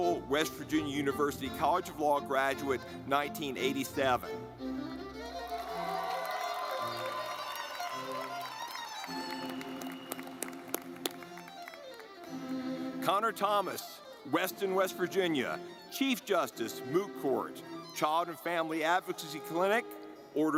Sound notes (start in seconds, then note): 4.3 lively music; 5.4 audience clapping